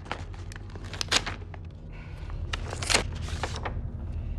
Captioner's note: paper ripping